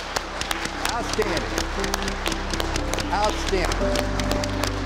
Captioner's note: applause